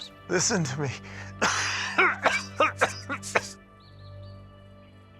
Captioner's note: rufus coughs